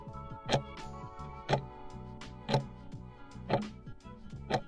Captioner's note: timer ticking